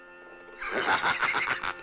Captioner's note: laughs